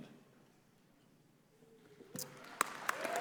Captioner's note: applause